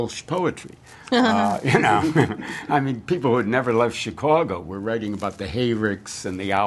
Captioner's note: laughter